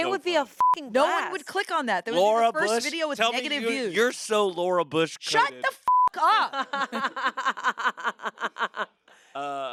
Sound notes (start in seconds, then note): 0.5 beep; 5.8 beep; 6.2 laughs